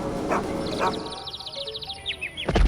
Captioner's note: birds chirp